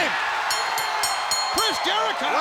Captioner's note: bell ringing